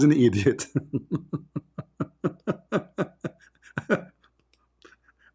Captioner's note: Ketawa